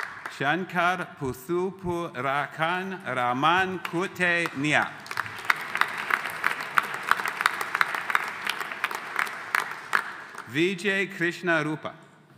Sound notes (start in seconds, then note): 4.4 audience applauding